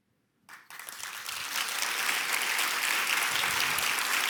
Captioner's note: audience applauding